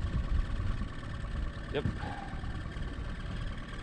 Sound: boat engine idling

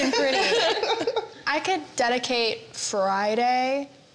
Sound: laughter

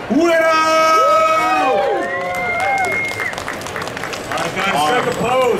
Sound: audience cheering

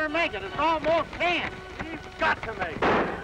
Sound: gunshots

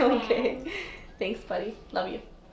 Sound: laughing

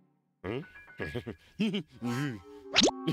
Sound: chuckling

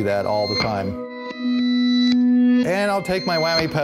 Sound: chord reverb reversed

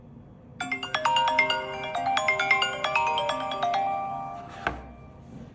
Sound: phone rings

